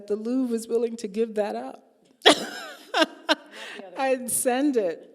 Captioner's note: laughing